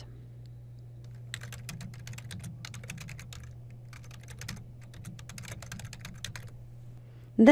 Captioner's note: typing